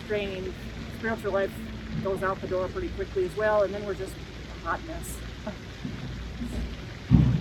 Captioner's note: chuckles